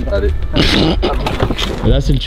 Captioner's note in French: petit rire